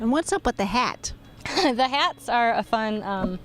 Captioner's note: laughs